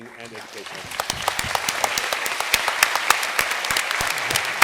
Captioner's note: applause